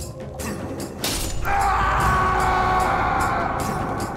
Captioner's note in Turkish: Çekiç sesi